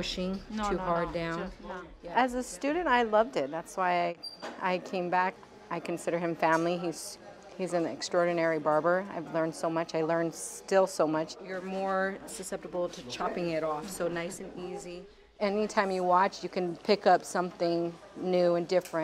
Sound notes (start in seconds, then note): none